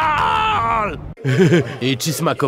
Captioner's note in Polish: śmiech Spejsona